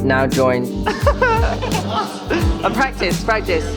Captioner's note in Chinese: 大笑